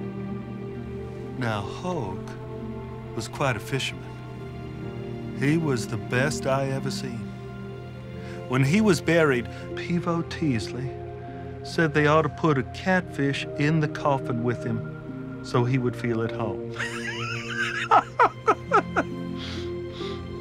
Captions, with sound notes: Now, Hoke was quite a fisherman. He was the best I ever seen. When he was buried, Peavo Teasley said they ought to put a catfish in the coffin with him so he would feel at home. (laughing)